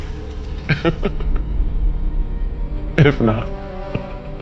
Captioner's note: laughing